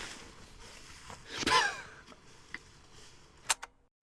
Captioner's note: exhales exasperatedly; camera shutter clicks